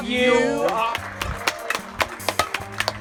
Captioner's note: clapping